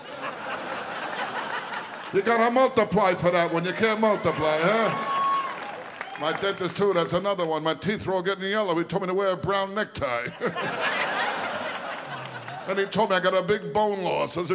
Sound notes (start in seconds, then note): 0.0 audience laughing; 5.2 audience cheering